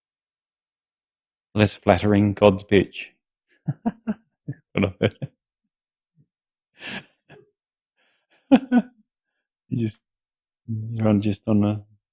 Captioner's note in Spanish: risas